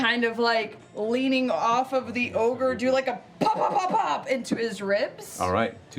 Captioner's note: pop pop pop pop